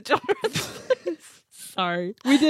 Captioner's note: laughs